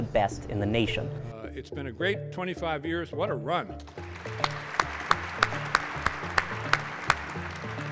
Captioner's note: applause